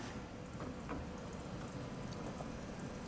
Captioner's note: soft rippling in the background